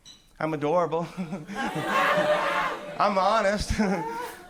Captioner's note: crowd laughs